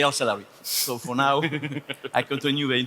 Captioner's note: laughs